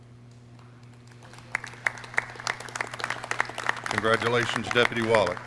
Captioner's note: clapping